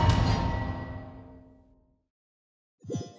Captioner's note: none